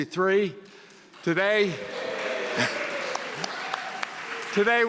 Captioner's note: audience cheering